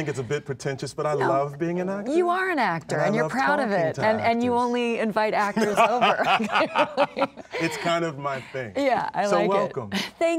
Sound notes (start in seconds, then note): 5.4 Laura laughs; 5.5 Sterling laughs